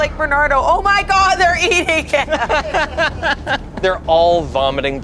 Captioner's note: group laughs